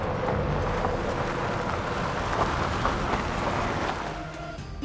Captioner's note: engine whirring